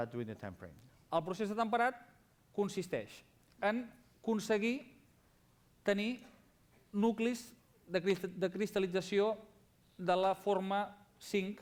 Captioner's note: non-english speech